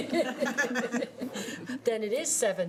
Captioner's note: laughing